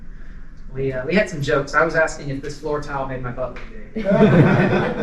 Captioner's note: laughter